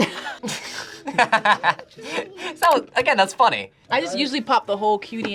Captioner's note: laughs